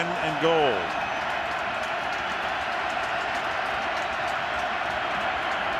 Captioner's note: crowd cheering